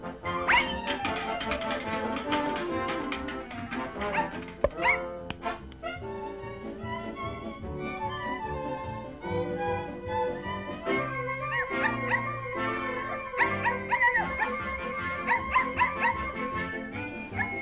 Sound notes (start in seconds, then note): 13.3 barking